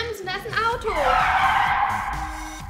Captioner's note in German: quietschende Reifen